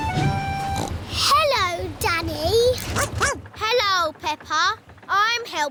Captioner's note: snorts; barks